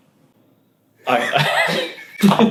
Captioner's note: laughs